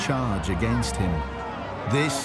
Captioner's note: crowd chanting